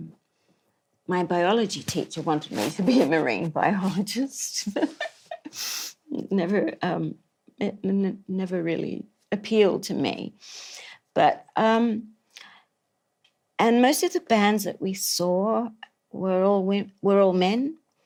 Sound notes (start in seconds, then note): 4.5 laughs